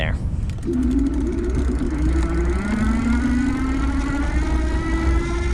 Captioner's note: bicycle electric motor roaring